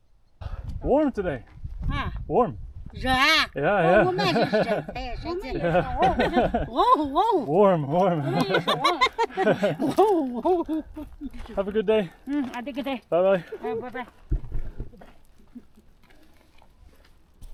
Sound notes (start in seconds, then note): 3.7 lots of laughing and friendly repeating of the word "Warm"